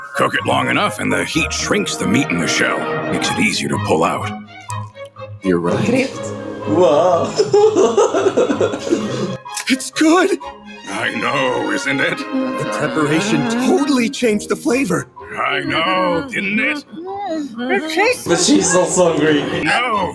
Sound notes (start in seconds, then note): 6.1 in Dutch